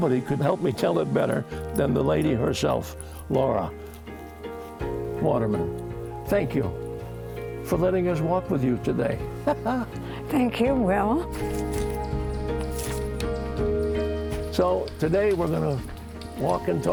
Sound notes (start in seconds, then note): 9.4 laughs